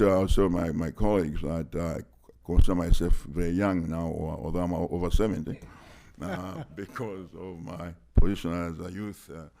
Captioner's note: laughter